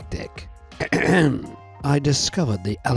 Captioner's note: ahem